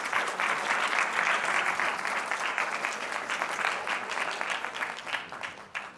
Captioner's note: applause